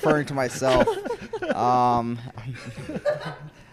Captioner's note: laughs